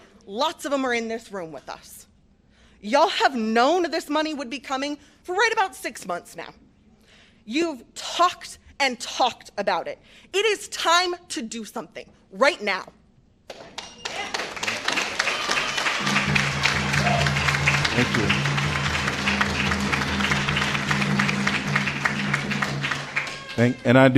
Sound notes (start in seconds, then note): 13.5 applause